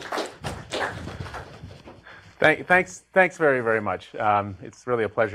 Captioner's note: applause